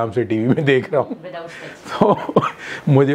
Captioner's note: Laughing